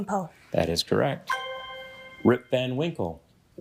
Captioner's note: bell dings